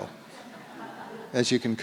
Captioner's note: audience laughs